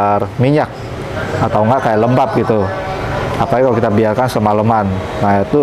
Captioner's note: praying sound